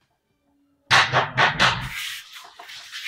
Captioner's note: Door knocking